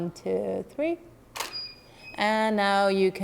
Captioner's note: shutter clicking